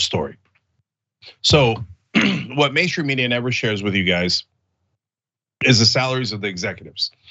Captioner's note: cough